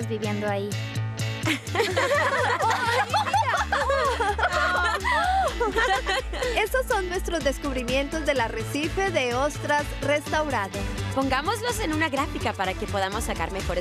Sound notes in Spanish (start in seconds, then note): 3.3 todas riendo y gritando